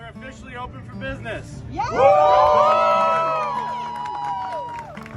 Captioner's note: crowd cheers